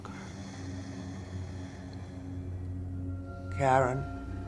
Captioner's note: labored breathing